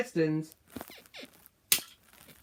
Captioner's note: bed squeaks